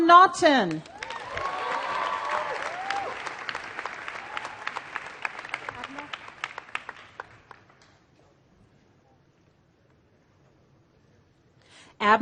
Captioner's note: applause